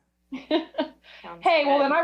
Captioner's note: chuckles